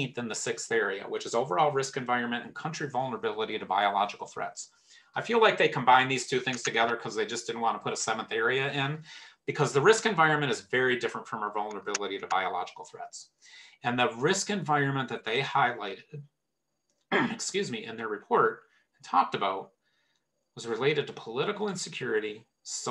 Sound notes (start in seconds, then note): 17.1 clears throat